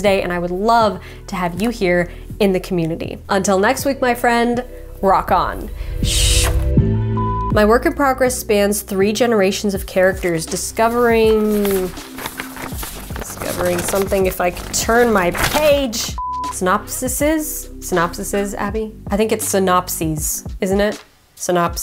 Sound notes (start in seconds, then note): 7.2 beep; 10.6 papers rustling; 16.2 beep